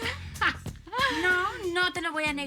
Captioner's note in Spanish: Risas